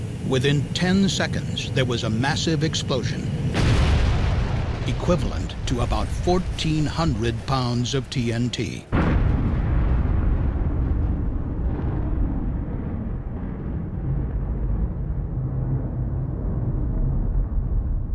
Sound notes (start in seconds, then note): 8.8 sound of explosion